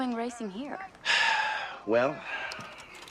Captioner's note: sighs